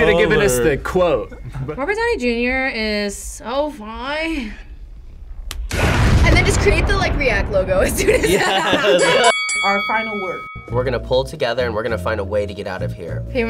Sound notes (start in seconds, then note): 5.4 snaps; 8.8 bell dings